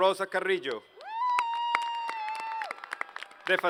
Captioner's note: applause